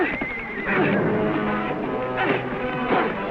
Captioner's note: grunting